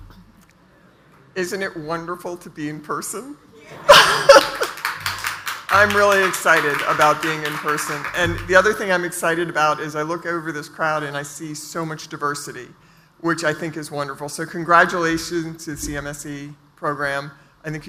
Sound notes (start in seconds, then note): 3.8 laughs; 3.9 audience applauds